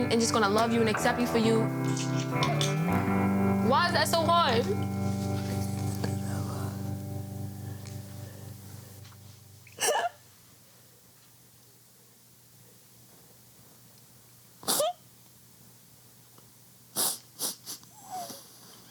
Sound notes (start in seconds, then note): 9.8 sobbing quietly